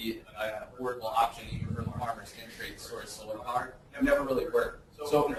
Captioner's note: distorted speech